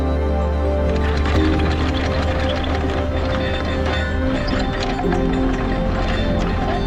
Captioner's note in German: Ankerrasseln